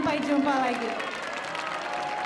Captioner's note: speaking in Indonesian; audience cheering; audience applauding